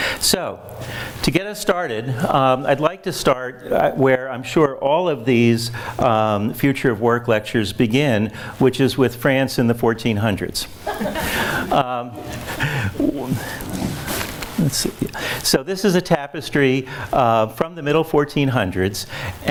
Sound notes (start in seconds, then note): 10.8 audience laughs